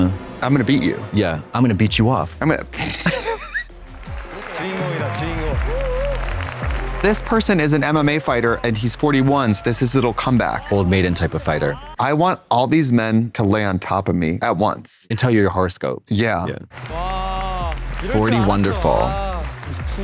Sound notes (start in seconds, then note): 2.7 blonde Women hee-hee